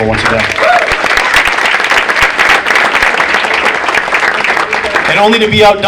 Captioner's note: audience applauding